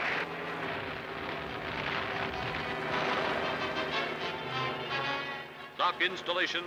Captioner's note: plane engines